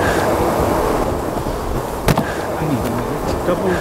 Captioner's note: sighs